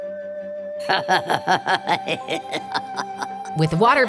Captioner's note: laughing